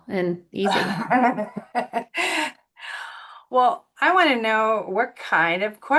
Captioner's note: laughing